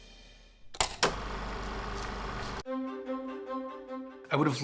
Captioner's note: film reel spinning